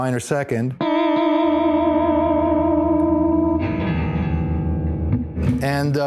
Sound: distorted reverb

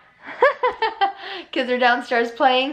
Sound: laughs

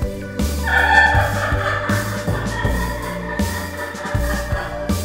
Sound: creepy laughing

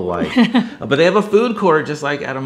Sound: chuckles

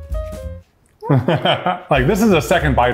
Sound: laughs

